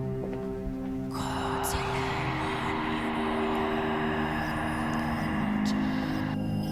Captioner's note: raspy whispering in foreign language